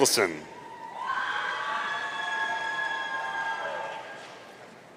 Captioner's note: audience cheering